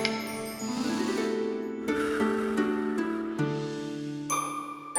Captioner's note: deep inhale and exhale